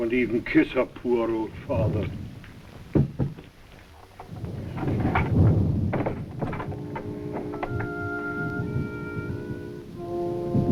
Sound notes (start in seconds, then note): 6.6 gentle music; 7.2 door locks